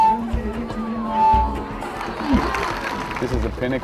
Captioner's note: audience applauding